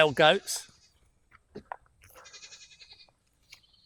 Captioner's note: goat bleating